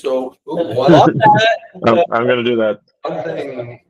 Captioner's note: exclaiming